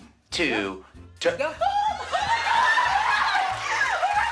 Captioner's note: screams